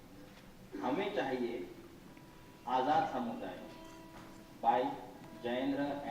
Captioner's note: speaking in foreign language